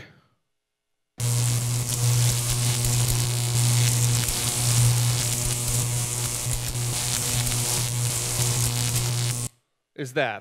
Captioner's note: electricity buzzing